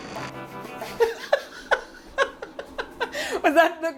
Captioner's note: laughter